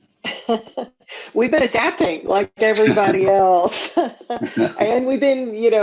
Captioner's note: laughs